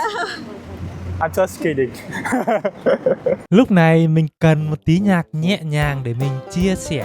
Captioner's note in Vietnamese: tiếng cười